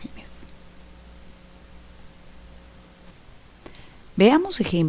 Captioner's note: no audio